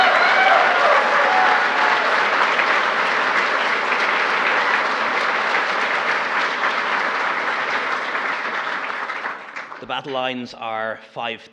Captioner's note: applause